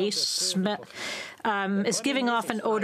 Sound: speaking French

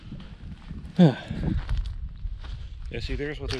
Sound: sigh

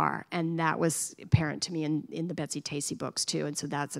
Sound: none

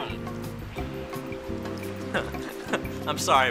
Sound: laughs

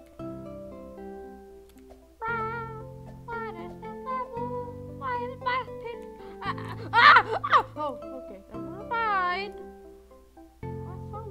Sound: animal crossing gibberish

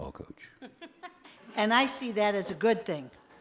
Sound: laughter

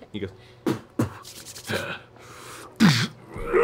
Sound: spits, grunts

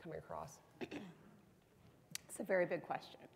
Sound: clearing her throat

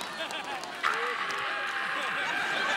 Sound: screaming

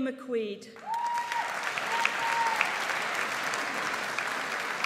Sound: audience applauds

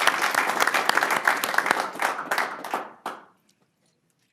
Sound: applause

